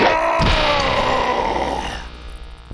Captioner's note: roars; machine breaks